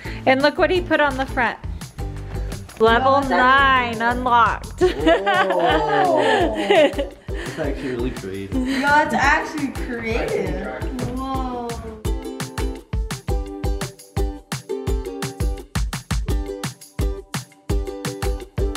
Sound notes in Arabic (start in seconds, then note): 4.8 يضحك الجميع; 11.5 موسيقى مرحة